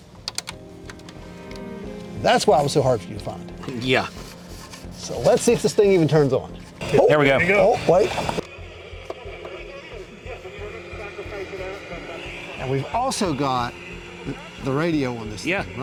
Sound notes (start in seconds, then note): 10.2 radio warbling